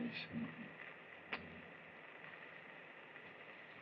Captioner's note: smooches